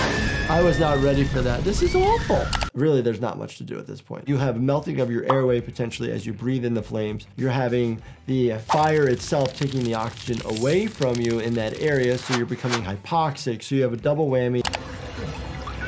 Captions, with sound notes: I was not ready for that. This is awful. Really, there's not much to do at this point. You have melting of your airway potentially as you breathe in the flames. You're having the fire itself- (fire crackles) taking the oxygen away from you in that area,